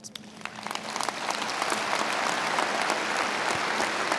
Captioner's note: audience applauds